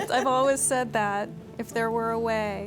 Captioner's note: laughter